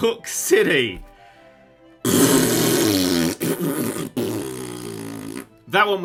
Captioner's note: angry fart noises